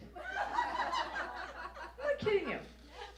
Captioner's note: audience laughs